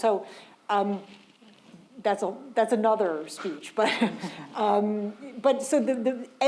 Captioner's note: chuckles